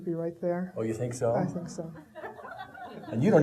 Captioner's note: audience laughing